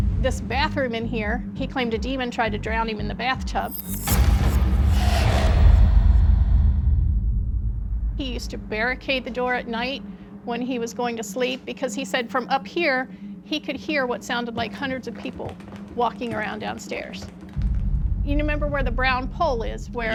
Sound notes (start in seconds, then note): 0.0 suspenseful music playing; 3.7 ghostly sound